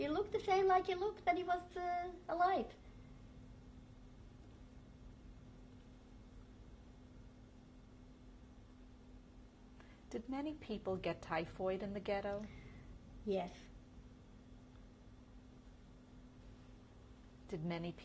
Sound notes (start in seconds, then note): 2.8 pauses for 7 seconds; 14.7 pauses for 3 seconds